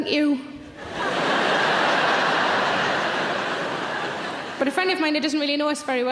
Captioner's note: audience laughing